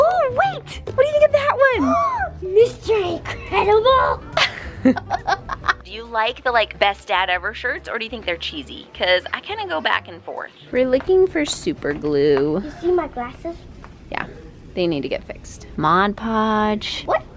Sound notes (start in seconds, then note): 2.0 gasps; 4.3 chuckles